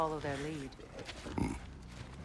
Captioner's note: grunt